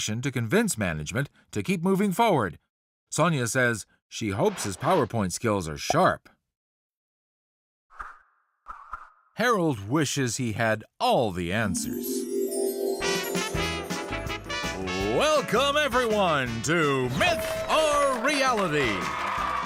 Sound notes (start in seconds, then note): 11.6 game show music; 11.7 chimes; 17.0 audience cheering; 17.1 applause